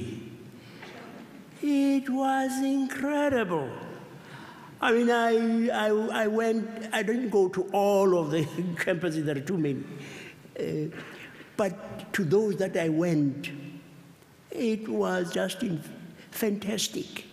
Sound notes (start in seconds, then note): none